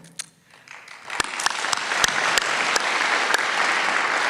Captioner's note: applause